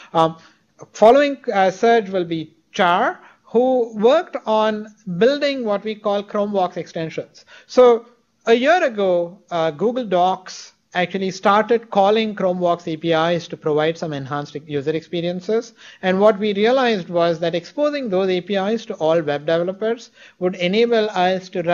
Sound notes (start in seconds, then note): none